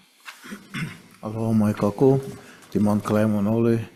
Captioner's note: speaks in foreign language